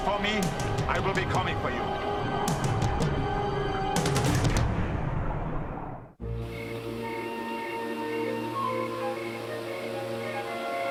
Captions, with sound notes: Look for me, I'll be coming for you. (crickets chirping) (somber orchestral music)